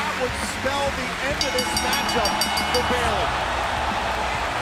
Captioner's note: bell ringing